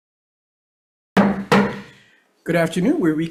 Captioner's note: gavel banging